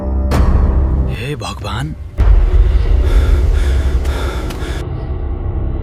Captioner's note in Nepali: स्याँस्याँ गरेको आवाज